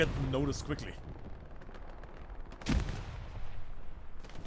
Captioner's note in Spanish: disparo